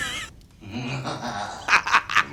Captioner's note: happy laugh